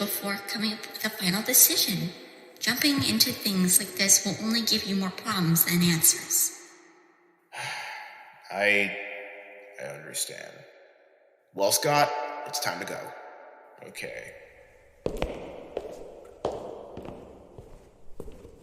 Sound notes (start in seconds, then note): 7.5 sighs